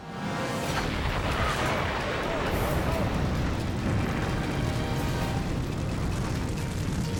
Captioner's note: people clamoring; fire booming